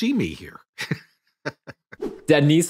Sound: laughing

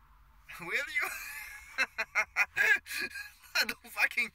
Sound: laughs

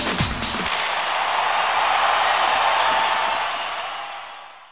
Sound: audience cheers

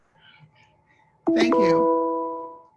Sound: chime

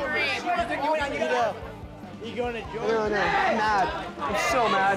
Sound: people chattering

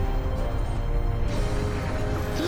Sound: gasping

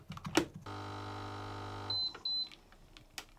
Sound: machine whirring; machine beeping

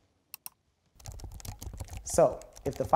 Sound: typing sounds

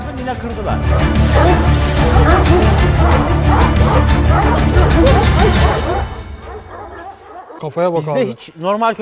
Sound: dog barks

